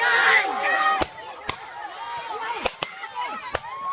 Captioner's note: gunshots